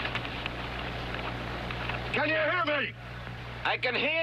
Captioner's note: shouting